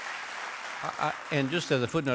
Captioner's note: applause